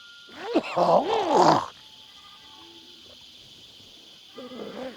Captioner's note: coughs